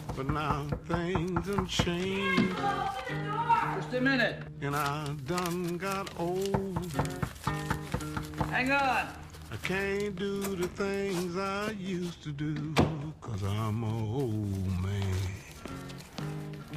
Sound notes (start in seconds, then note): 7.5 door knocking